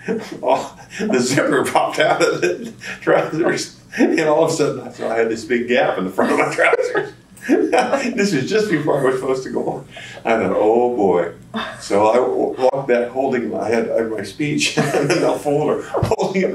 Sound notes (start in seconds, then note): 6.1 laughter